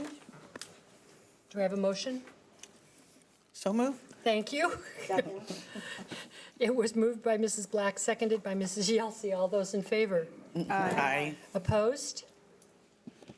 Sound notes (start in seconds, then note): 4.9 laughing